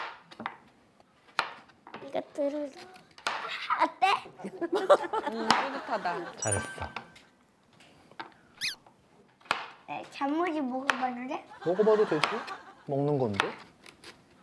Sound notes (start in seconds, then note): 8.0 munching